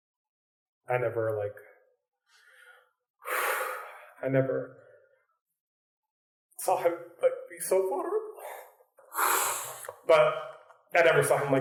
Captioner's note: deep breath